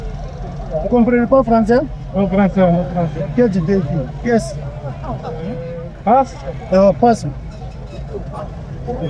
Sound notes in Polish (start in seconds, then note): 0.9 rozmowa w obcym języku